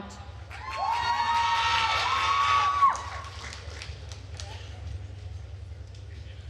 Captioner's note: attendees cheering and applauding